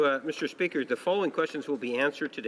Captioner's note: speaking French